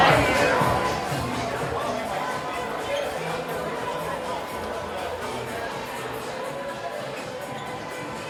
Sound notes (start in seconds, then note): 2.6 guests chattering; 2.6 upbeat music